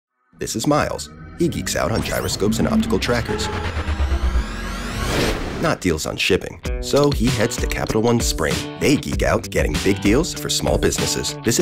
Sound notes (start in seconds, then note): 3.8 robotics whirring